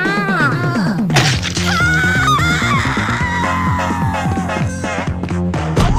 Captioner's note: chomp; Karen Screaming